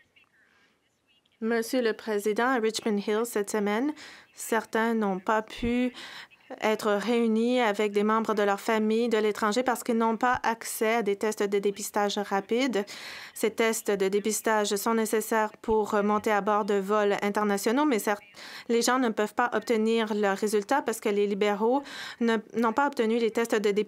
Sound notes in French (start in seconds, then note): 11.8 voix de l'interprète